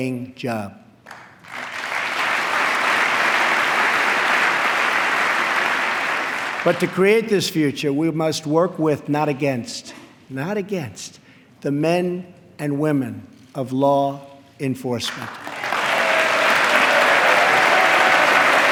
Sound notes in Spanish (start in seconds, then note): 2.6 aplauso; 15.0 aplauso